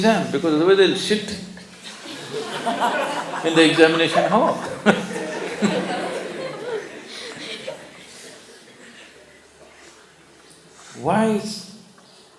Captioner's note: laughter